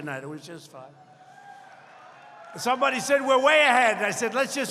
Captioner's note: applause